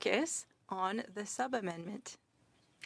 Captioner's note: speaking French